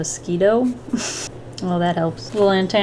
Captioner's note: chuckles